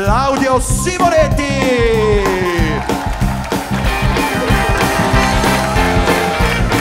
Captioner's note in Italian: Applauso